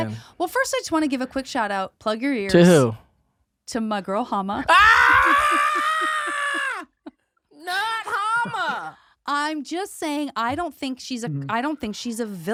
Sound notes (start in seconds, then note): 4.6 screams; 7.6 laughs